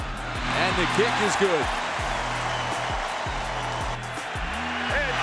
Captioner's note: crowd cheering